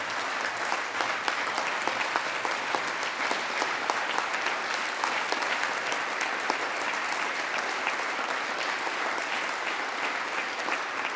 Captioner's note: applause